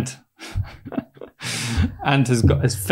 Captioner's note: laughs